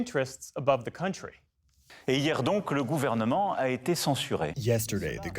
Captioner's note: through translator